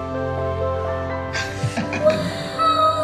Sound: father laughing; voice of child

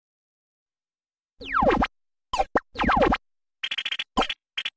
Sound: digital video game sounds

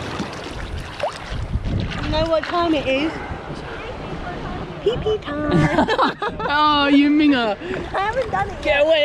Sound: both laugh

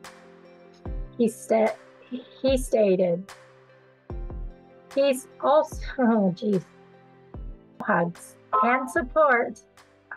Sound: ding of cell phone

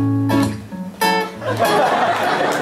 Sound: laughter

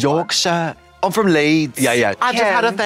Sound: British accent

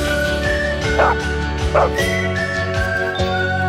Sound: dog barks

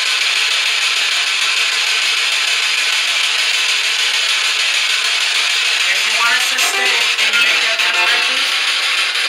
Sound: static noise

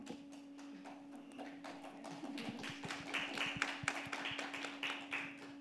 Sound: audience applauding

